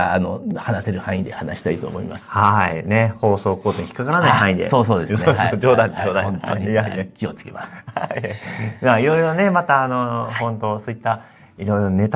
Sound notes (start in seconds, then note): 5.1 laughs